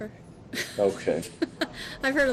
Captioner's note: laughs